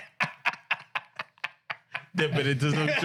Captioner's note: laughing